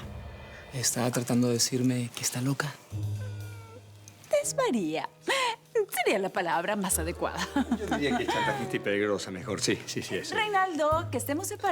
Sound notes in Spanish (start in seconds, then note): 7.4 Ríe